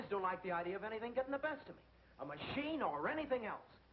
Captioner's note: none